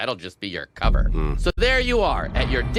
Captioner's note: grunts